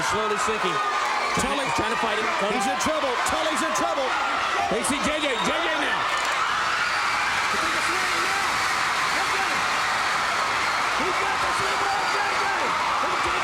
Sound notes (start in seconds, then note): 6.7 audience cheering; 8.1 speaks faintly